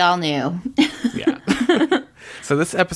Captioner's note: laughs